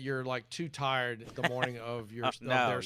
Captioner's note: laughs